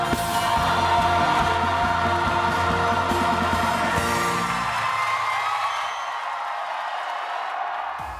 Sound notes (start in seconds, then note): 4.2 applause